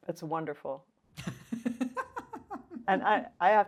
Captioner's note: laughs